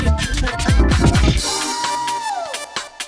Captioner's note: scream